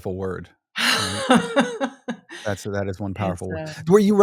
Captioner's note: laughing